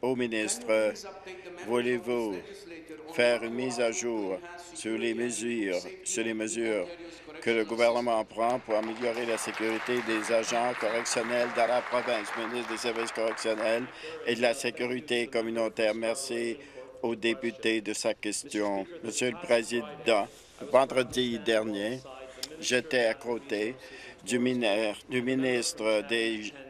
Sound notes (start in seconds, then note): 12.1 applause